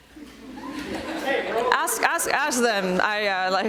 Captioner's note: attendants laughing